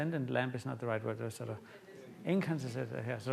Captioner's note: audience murmurs